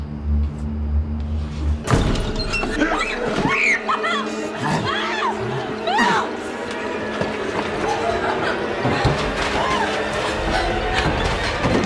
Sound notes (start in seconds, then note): 2.1 suspenseful music; 2.8 woman screaming